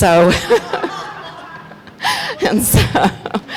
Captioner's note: crowd laughing; laughs